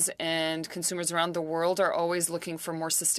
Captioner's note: speaking french